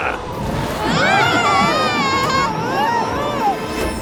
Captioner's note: hacker laughing; group yelling; wind whistling